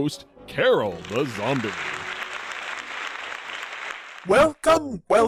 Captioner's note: applause